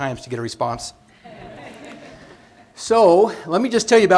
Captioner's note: laughter